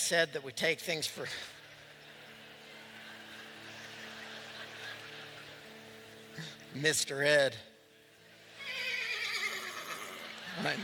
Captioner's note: laughter; whinny; laughter